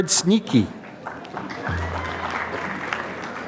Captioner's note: applause